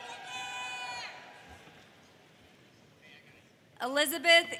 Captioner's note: audience cheers